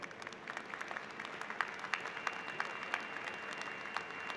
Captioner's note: applause